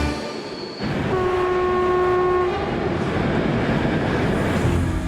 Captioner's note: train horn blares